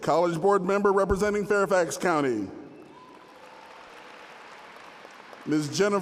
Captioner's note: applause; applause